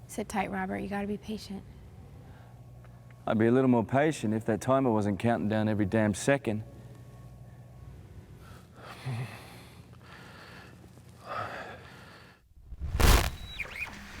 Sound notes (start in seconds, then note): 12.6 static